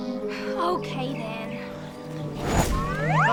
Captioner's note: sighs